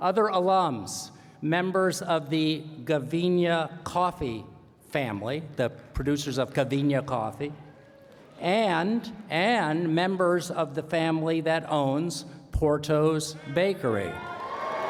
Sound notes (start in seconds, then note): 8.5 cheering